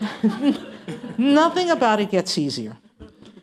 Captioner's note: laughter